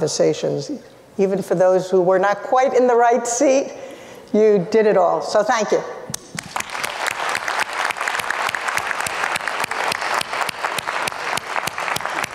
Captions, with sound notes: Even for those who were not quite in the right seat, you did it all. So thank you. (applauds)